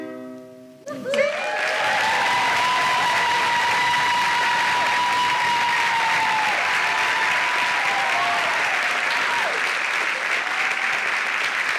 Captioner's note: loud cheering and applause